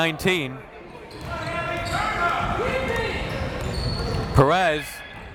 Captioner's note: crowd members shouting